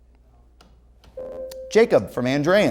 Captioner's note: ringing